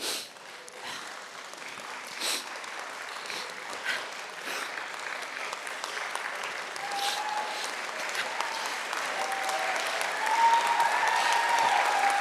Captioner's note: audience applauding